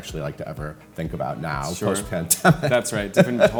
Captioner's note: chuckles